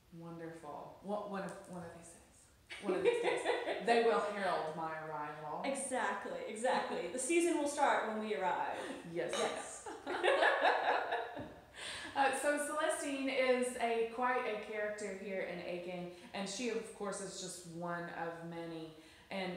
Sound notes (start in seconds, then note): 2.7 laughs; 9.3 clinks glasses, laughs